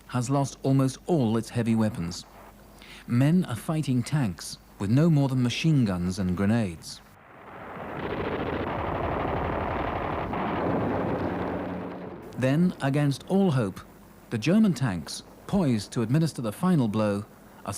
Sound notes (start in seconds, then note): 8.9 guns fire